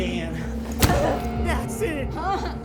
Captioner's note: head thudding; Dorothy whimpering